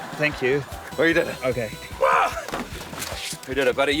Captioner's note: grunts